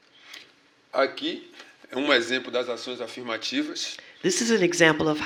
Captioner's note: speaking portuguese